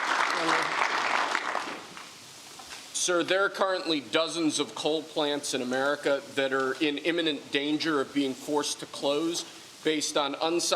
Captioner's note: applause